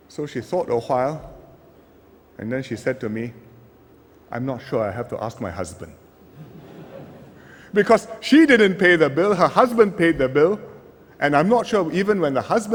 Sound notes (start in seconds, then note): 6.3 laughter